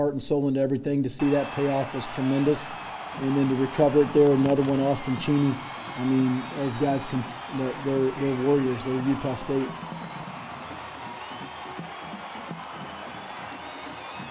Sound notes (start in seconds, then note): 9.7 cheering